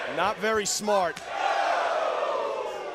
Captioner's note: crowd chatter